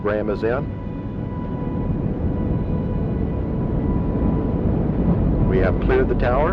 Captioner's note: rockets roaring